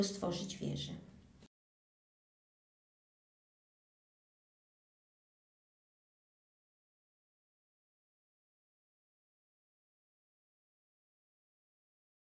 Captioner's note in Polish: cisza